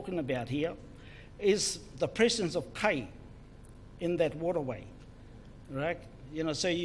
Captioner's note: foreign Language